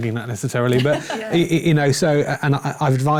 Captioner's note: chuckles